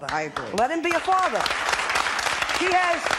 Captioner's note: applause